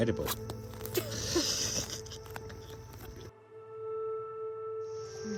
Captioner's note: both laughing